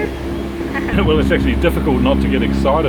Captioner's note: laughs